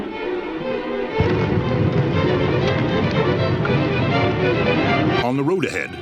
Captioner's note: fire roaring; music intensifies